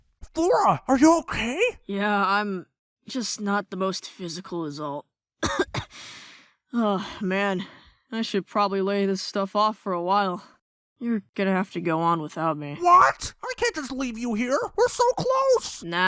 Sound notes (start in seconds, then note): 5.4 cough